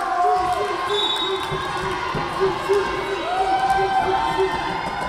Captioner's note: whistle blowing